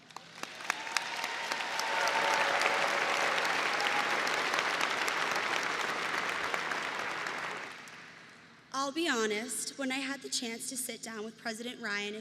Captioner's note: applause